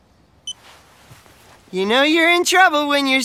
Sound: beeping

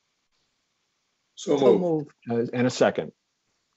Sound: multiple voices

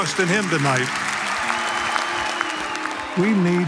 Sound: applause

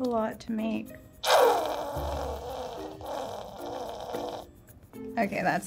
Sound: bottle squelches

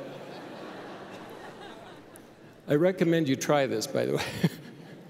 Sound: laughter

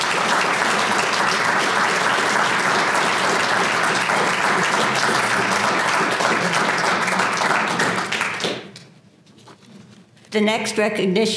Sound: applause

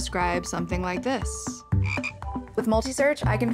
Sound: ribbit

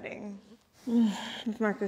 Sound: sighs

